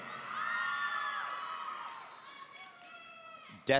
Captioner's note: audience cheering